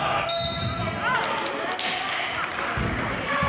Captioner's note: whistling; applauding